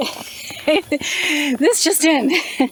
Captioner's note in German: Gelächter